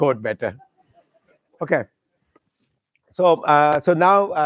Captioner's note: chuckling